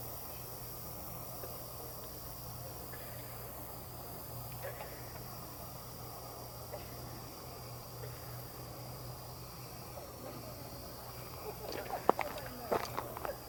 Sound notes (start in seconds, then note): 0.1 katydids forest sounds